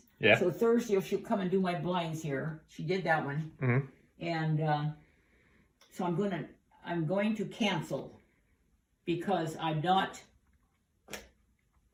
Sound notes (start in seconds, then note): none